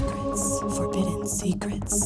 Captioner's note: lady whispering "Forbidden Secrets"